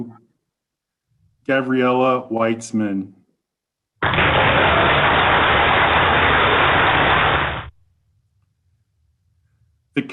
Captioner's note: applause